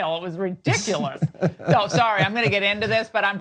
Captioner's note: laugh